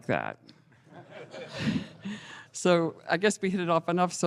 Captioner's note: laughter